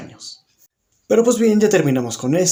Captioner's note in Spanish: Silencio